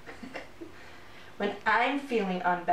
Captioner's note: giggle